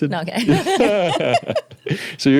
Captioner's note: laughing